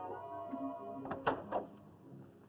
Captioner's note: door opens